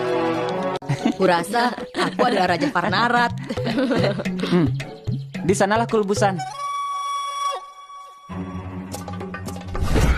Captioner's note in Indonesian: berdehem